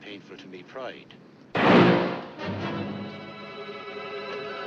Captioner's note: gunshot